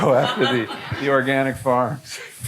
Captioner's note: audience laughing